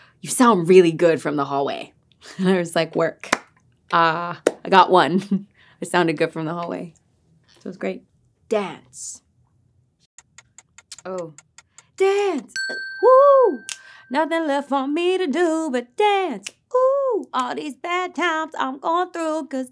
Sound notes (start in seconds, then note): 10.2 clock ticking